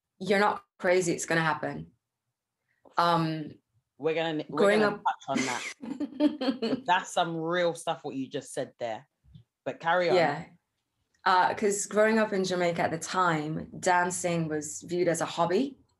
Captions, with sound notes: "You're not crazy, it's gonna happen." - We're gonna touch on that. - Growing up- (laughs) - That's some real stuff, what you just said there. But carry on. - Yeah. 'Cause growing up in Jamaica at the time, dancing was viewed as a hobby